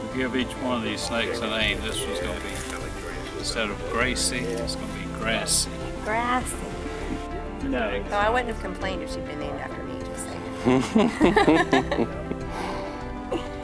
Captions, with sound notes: We give each one of these snakes a name. This one's going to be, instead of "Gracie" its going to be "Grassy". Grassy! I wouldn't have complained if she'd been named after me, just sayin'. (laughter)